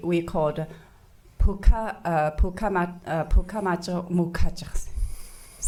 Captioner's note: speaking foreign language